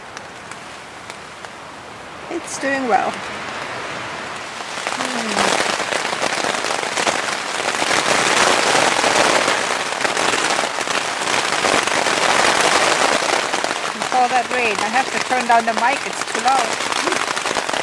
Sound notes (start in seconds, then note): 6.4 strong rain sounds on the tent; 17.0 laughs